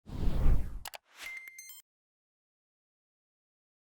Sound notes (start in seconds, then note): 0.0 whooshing; 1.2 chiming